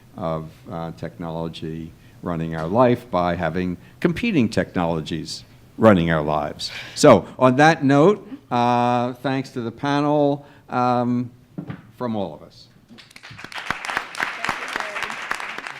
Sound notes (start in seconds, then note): 12.9 applause